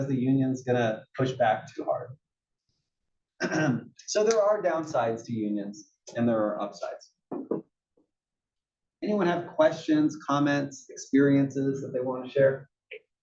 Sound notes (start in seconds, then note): 3.4 cough